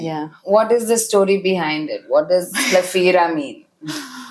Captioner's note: laughs